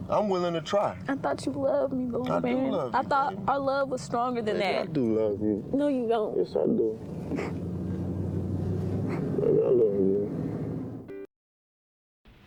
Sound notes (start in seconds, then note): 7.3 sobs; 12.2 piano music